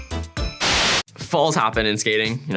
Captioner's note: white noise